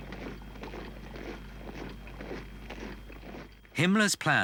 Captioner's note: boots thudding